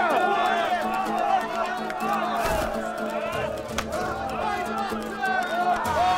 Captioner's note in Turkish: Bağrışma sesleri